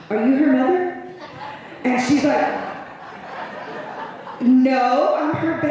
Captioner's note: laughter